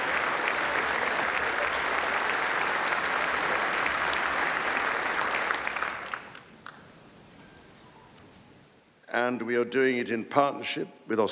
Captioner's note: applause